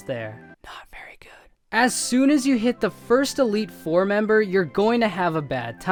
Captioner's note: whispers it’s not very good